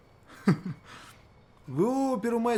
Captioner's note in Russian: усмешка